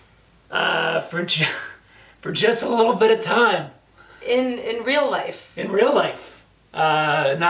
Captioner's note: laughs